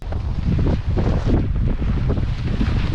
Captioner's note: wind